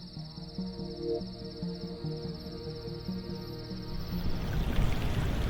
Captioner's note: crickets chirping